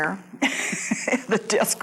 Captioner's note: laughs